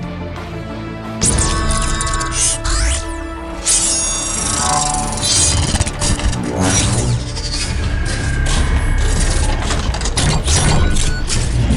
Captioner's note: mechanical Sound Effects